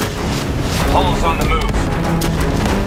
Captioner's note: hendricks over radio